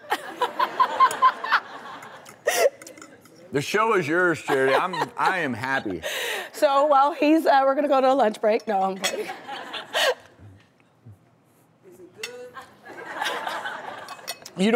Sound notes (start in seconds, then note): 0.2 laughs; 9.2 laughs; 12.5 laughs